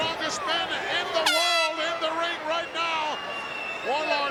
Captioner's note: horn blows